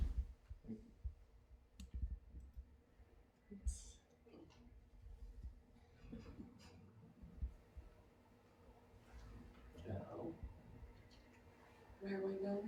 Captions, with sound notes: (audience murmuring) Where are we now?